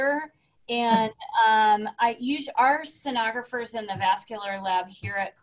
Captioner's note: chuckles